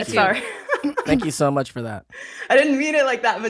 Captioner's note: laughs